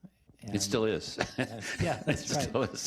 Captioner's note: chuckling